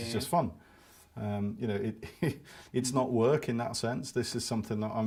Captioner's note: laughs